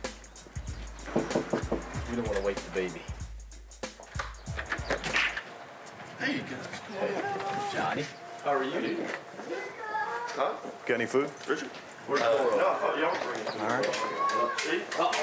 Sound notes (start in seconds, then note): 1.1 knock at door